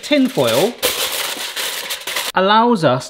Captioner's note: tinfoil crunching